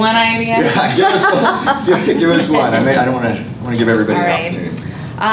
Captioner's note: laughing